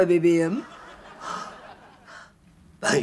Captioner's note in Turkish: Gülme efekti